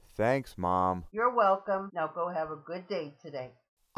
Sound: voiceover

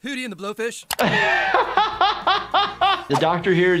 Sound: laughs

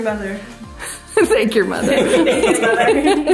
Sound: laughs

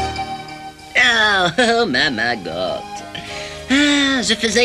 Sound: chuckles

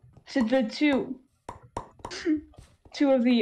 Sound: snicker

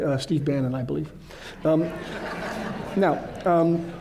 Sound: laughter

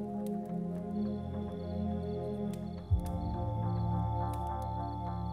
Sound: crickets chirping

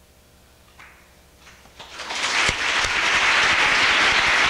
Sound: applause

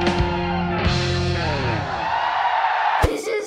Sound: crowd cheers

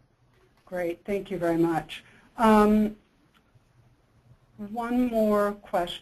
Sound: voiceover

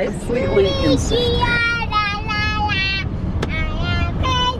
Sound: shouting

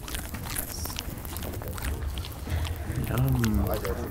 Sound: koala chewing

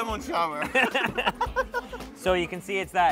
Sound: laughs

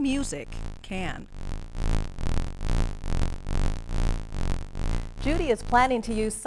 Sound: buzzing

